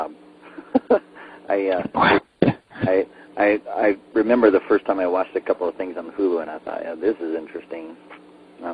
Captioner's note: laughs